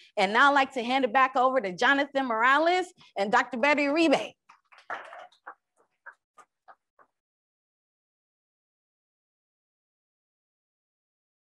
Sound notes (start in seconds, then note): 5.0 crowd applauds